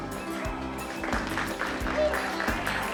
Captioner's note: applauding